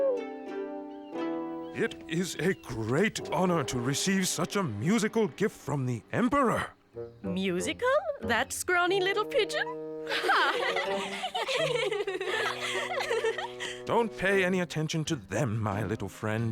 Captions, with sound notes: - It is a great honour to receive such a musical gift from the Emperor. - Musical? That scrawny little pigeon? Ha! [ Giggles ] - Don't pay any attention to them, my little friend.